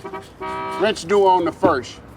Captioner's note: horn honks